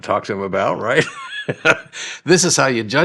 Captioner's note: laughing